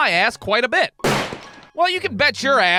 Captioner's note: bang!